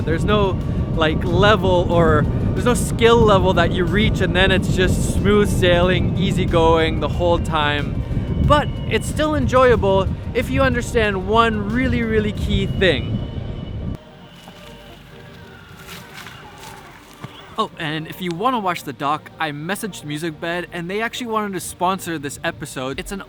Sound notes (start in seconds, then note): 15.9 leaves crunching